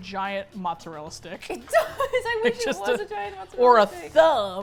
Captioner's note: laughing